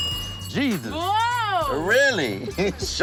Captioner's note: bell dings